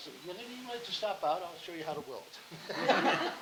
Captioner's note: laughing